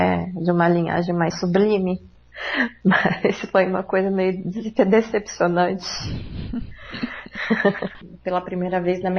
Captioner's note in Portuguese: risos